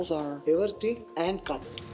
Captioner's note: speaking italian